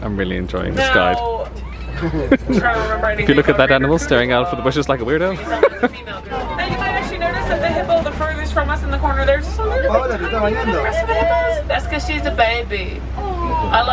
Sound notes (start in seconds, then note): 5.4 laughs